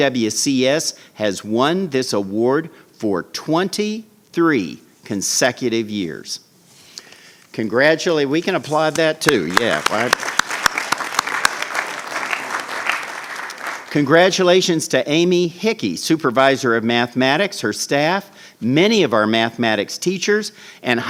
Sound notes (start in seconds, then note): 9.2 clapping